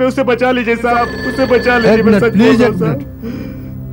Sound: phone ringing

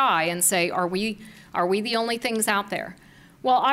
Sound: none

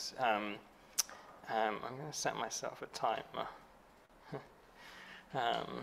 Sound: chuckles

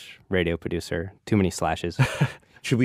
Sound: laughs

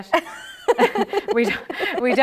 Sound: laughter

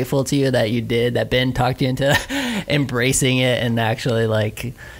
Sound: laughs

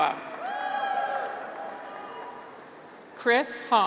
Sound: graduates cheer

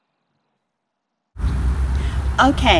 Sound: air whooshing

